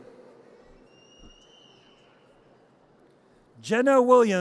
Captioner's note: audience cheers